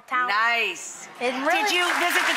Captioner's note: audience applauds